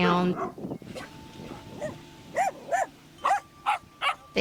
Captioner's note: dog barking